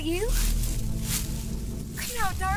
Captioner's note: low, soft growl